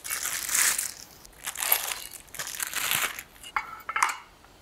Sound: bag crinkling; metal scraping

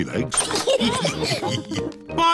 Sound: all laugh

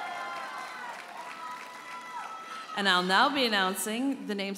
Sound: audience members holler and cheer

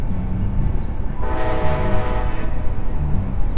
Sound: train whistle blows

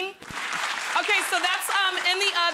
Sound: audience claps

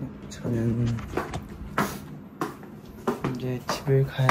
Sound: thumping away

